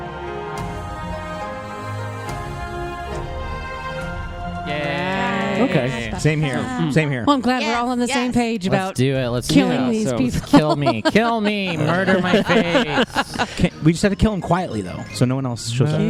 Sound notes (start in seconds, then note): 10.1 laughs; 14.0 everyone laughs